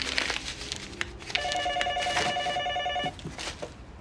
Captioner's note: phone ringing